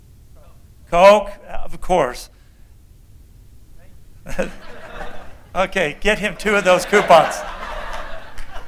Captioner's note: laughter